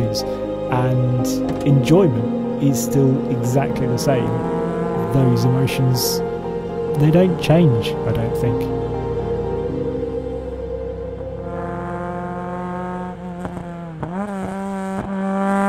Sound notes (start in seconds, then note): 11.7 car engine revs